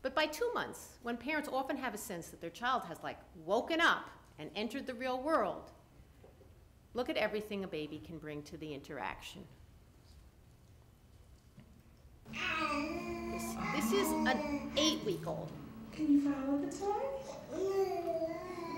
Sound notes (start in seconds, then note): 9.5 baby gurgling